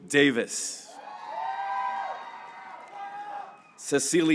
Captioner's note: graduates cheering